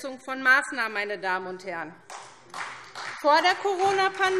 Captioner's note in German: Beifall SPD und DIE LINKE